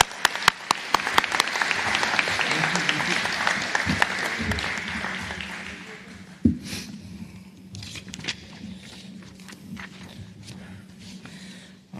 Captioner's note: applause